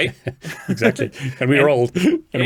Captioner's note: laughs